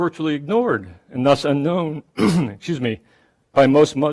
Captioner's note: coughs